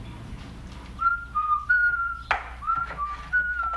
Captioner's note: whistling